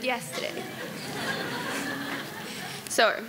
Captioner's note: audience laughing